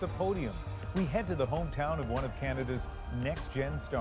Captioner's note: cheers and Applause